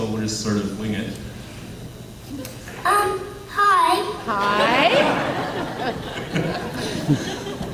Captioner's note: laughs